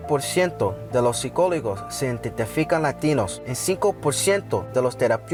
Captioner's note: speaking Spanish